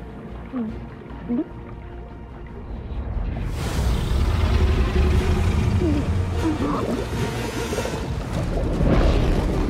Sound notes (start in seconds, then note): 3.9 growling; 6.4 gulps